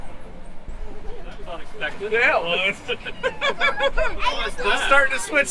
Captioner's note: laughing